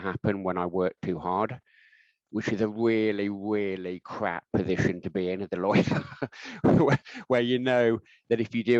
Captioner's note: laughing